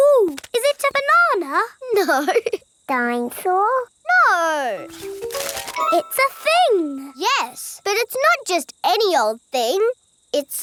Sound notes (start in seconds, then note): 2.2 laughing